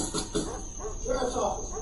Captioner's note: knocking on door